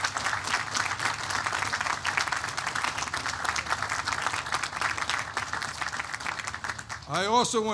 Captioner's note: applause